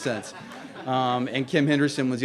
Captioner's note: laughter